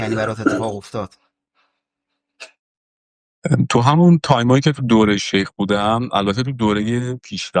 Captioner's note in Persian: گلویش را صاف می‌کند